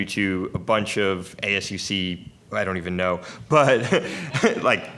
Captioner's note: laughs